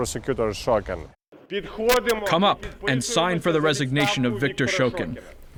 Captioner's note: through translator